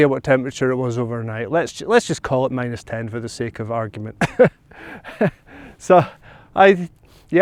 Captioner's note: laugh